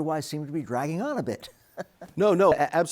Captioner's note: chuckles